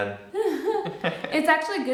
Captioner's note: chuckle